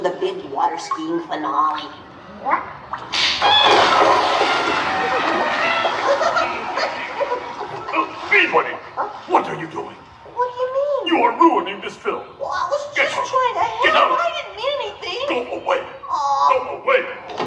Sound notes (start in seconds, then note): 3.3 she screams; 6.4 chuckles